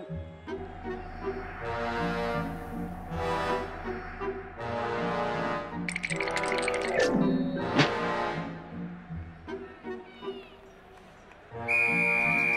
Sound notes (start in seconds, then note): 5.8 teeth chattering; 10.6 whistle